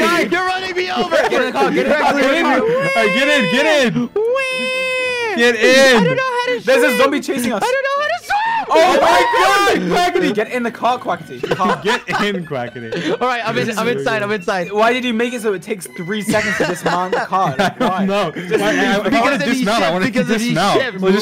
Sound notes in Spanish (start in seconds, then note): 2.0 chilla; 2.5 sigue chillando